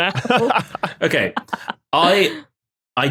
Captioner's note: laugh